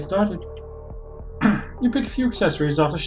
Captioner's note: clears throat